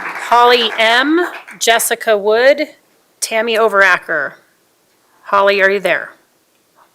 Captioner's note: applause